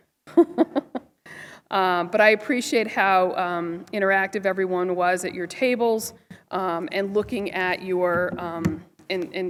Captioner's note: laughter